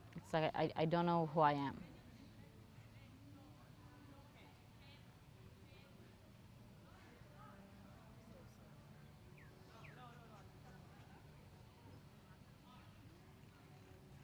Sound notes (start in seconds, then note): 2.3 pauses 19 seconds